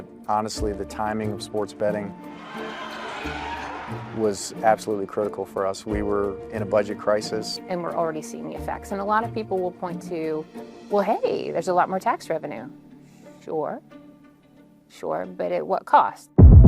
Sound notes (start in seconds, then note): 2.2 crowd cheering